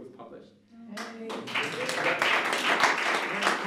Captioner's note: applause